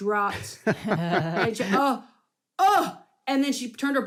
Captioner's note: mimics shocked gasps